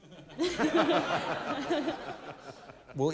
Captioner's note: laughter